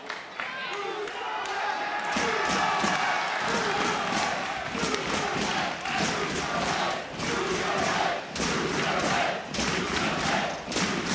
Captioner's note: crowd chants "bruiserweight"